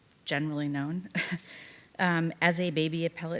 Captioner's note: chuckling